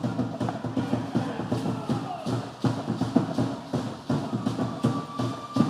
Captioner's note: entertainers chanting